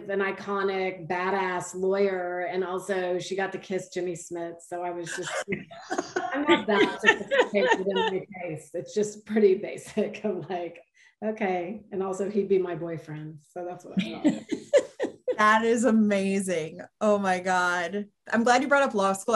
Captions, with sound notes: an iconic bad-ass lawyer. And also she got to kiss, Jimmy Smith. So I was just pretty basic. (panel laughs) It's pretty basic, I'm like, okay. And also he'd be my boyfriend. - That is amazing. Oh my God, I'm glad you brought up law school.